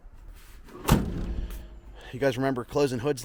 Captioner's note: hood slams